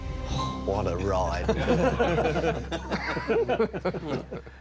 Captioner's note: all laughing